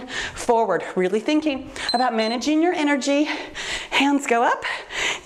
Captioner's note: timer beeps